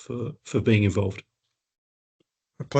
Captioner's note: speaking in Ngarrindjeri